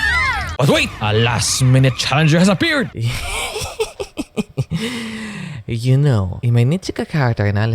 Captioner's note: laughs menacingly